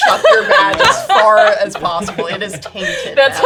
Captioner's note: laughing